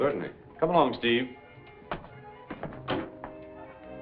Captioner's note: footsteps; door shuts